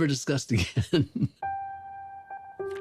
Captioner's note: chuckles